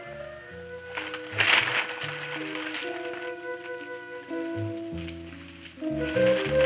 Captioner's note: bag rustling